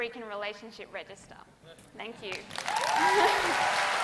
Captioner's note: applause